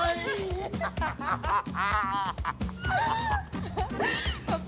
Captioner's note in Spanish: Risas